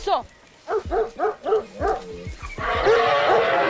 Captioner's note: speaking foreign language; barking